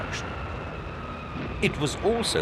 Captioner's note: bombs whistling